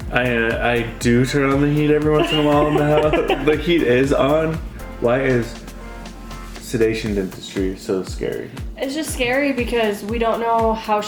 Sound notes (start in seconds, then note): 2.1 laughing